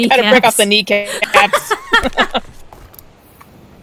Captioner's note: laughing; laughs